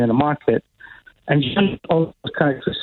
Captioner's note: technical feedback disrupts speaker